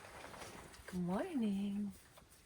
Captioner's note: blankets rustle